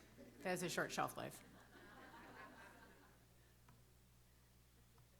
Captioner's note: laughter